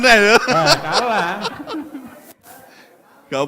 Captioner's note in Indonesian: tertawa